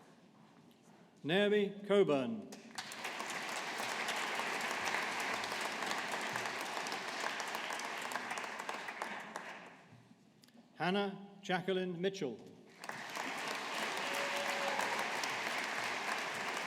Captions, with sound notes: Naomi Cockburn. (AUDIENCE APPLAUDING) Hannah Jacqueline Mitchell. (AUDIENCE APPLAUDING)